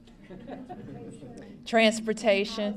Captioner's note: laughter